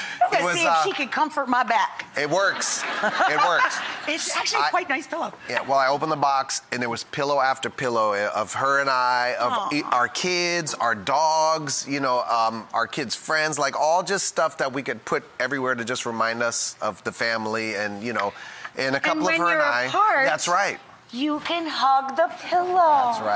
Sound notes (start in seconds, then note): 2.8 laughs